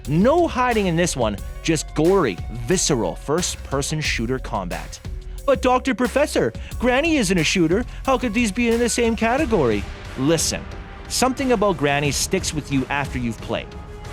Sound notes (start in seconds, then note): 4.9 mocking